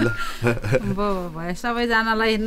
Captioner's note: laughter